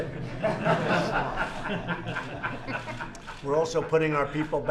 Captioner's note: laughter